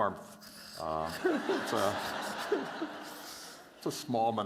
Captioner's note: laughter